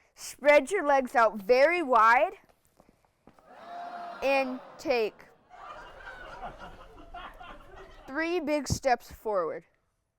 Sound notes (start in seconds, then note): 3.4 people exclaiming; 3.4 people laughing